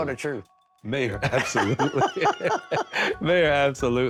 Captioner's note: laughing